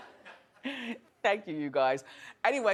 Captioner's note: audience laughing